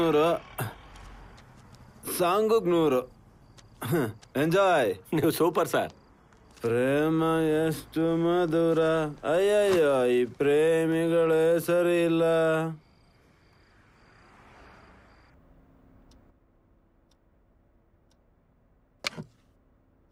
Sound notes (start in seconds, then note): 7.6 hums the song